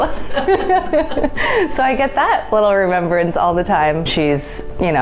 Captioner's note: laughs